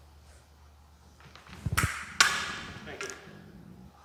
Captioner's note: weapons tapping